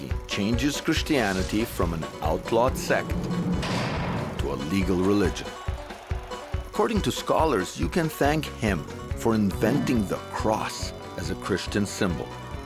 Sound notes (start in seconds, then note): 3.2 gunshot sound